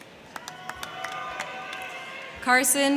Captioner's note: crowd cheering; crowd clapping